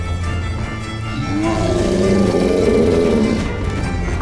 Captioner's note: roar